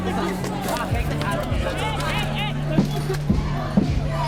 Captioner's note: all shouting